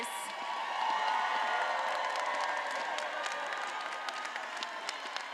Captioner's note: attendees applauding and cheering